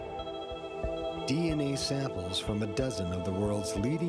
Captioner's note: voiceover